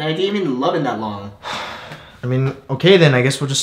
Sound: sigh

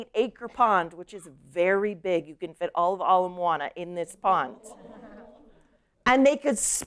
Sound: laughter

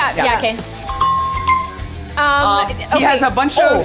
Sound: app chimes

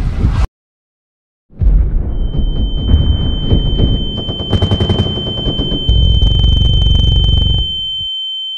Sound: loud Ringing

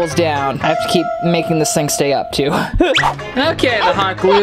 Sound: laughs

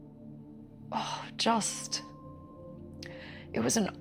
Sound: sigh

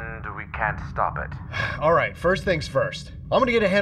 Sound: sigh

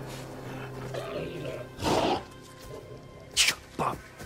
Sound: distant growling

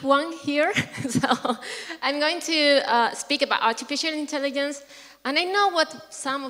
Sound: laugh

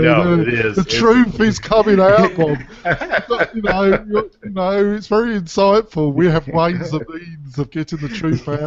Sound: both laugh

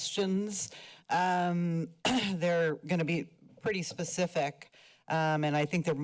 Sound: clears throat

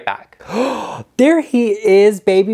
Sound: gasps

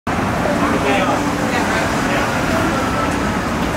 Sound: cars driving

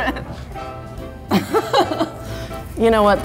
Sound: laughs

